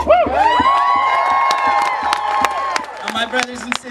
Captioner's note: cheering, clapping